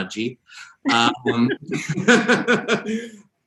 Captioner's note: both laugh